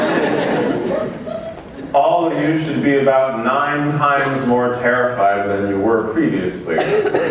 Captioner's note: laughter